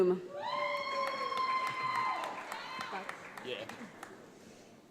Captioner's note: audience applauds